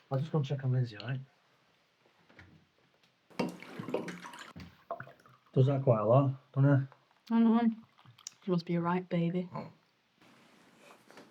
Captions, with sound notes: I'm just gonna check on Lindsey, alright? (liquor pouring) - Does that quite a lot, dun't he? - I don't know why, she must be a right baby.